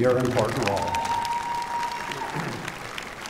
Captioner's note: applause